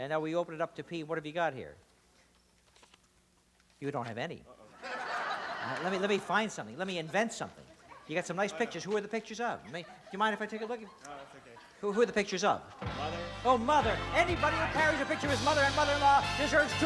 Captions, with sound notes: to P. What have you got here? You don't have any. - Uh-oh. (laughter) Let me-- let me find something. Let me invent something. You got some nice pictures. Who are the pictures of? Do you mind if I take a look? - No, that's OK. - Who-- who are the pictures of? - My mother. - Oh, mother. Anybody who carries a picture of his mother and mother-in-law deserves $200.